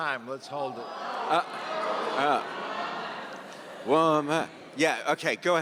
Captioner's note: audience members exclaiming